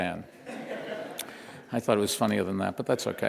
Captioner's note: laughter